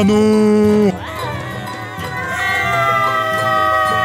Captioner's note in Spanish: gritos